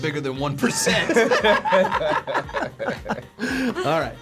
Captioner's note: both laugh